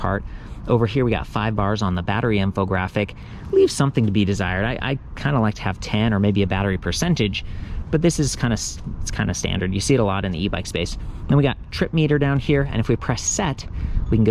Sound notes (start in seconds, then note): none